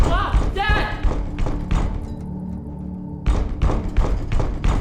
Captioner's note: loud thumping